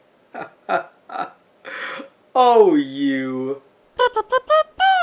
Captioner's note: laughing